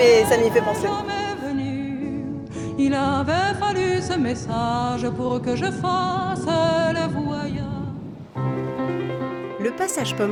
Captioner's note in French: chant